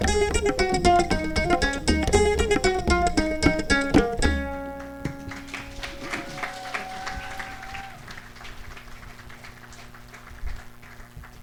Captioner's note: applause